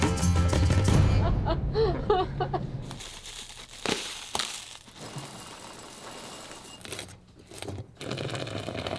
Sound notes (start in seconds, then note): 1.1 laughter